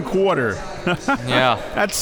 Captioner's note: laughing